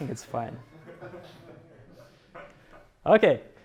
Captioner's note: crowd laughing